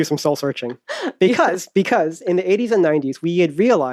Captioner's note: laughs